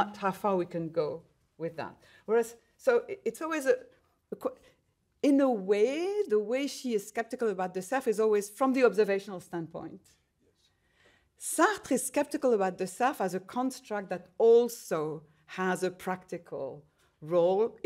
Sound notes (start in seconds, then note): none